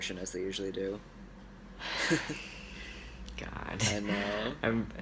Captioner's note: laughs; sigh